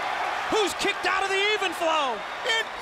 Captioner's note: crowd cheering